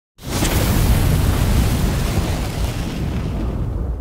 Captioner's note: fiery sounds